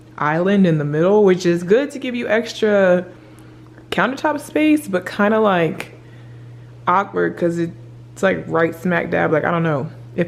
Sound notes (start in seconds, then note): none